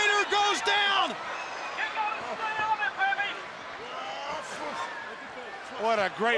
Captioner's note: crowd chatter